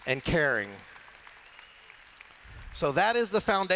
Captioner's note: applause